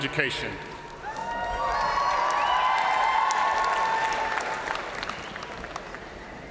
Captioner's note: crowd cheering; crowd applauding